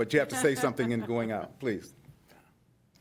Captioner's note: laughter